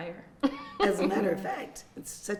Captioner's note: laughing